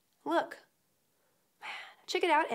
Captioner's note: sigh